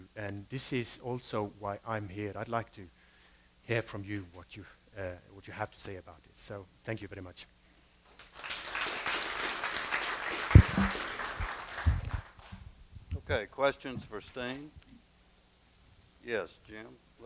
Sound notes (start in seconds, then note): 8.1 applause